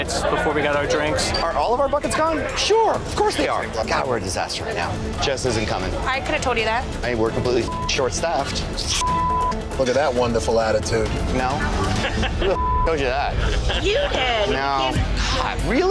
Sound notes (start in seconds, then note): 9.0 beeping; 12.5 beeping